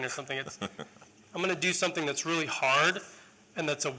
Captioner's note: laughter